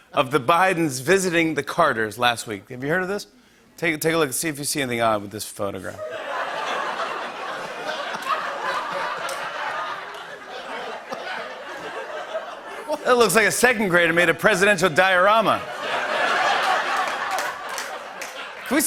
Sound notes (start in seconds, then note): 6.0 laughter; 15.4 laughter and applause